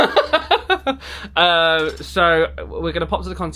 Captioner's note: laughs